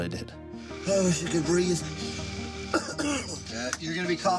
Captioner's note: coughs